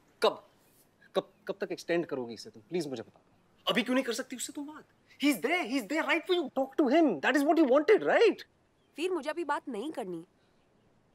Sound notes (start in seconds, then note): none